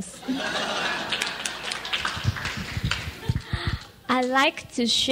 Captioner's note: audience laughs and claps